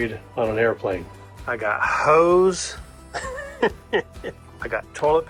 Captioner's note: chuckling